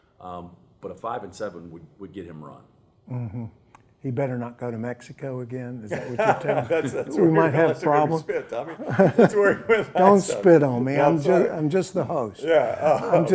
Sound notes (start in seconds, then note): 9.6 laughter